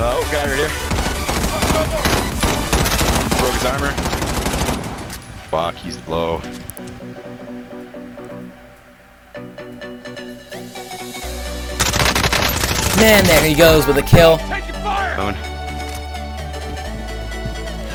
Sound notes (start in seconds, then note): 2.4 gun firing; 8.8 upbeat music; 11.8 gun firing